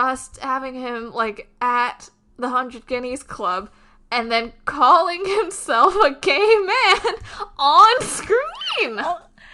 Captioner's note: laughing